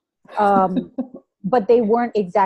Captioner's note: laughs